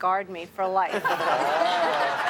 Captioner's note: everyone laughs